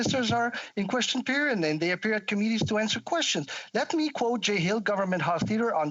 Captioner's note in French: voix de l'interprète